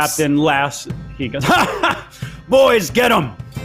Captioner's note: laughs